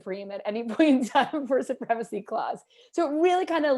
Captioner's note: laughter